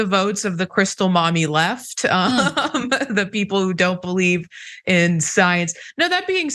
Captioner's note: laugh